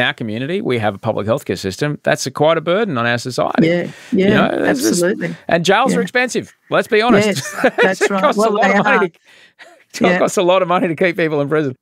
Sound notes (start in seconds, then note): 7.0 laughs